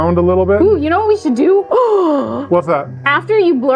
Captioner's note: gasps